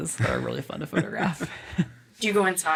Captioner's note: all laughing